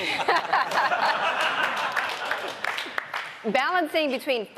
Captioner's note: laughing